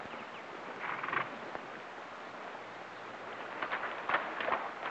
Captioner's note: horse snorts